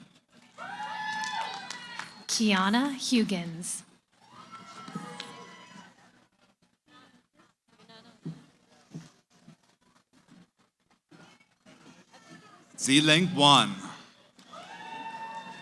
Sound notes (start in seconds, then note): 4.2 cheering; 6.5 background conversations